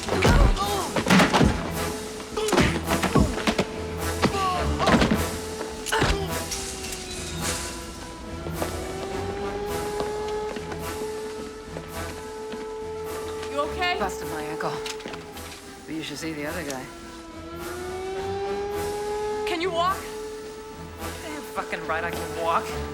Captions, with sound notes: [ Grunts ] [ Alarm Continues ] YOU OKAY ? BUSTED MY ANKLE, BUT YOU SHOULD SEE THE OTHER GUY. CAN YOU WALK ? DAMN FUCKIN' RIGHT I CAN WALK.